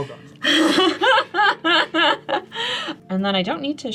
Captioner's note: all laugh